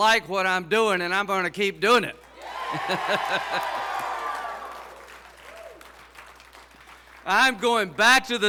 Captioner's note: laughs